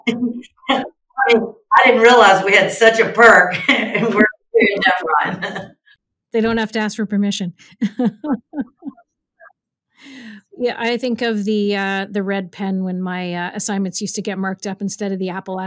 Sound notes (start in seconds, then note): 0.1 chuckles; 4.6 laughs; 7.6 laughs